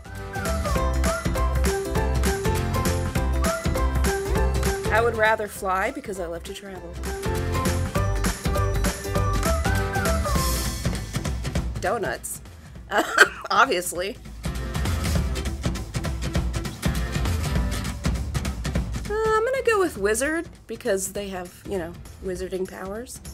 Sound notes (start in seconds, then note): 12.9 laugh